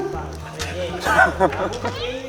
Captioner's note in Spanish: Jajaja